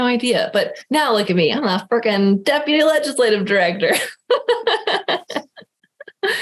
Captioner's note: laughing